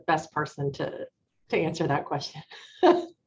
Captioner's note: chuckles